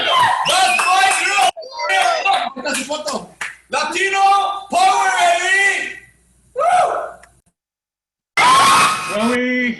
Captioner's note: cheering